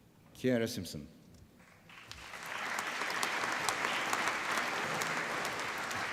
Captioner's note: applause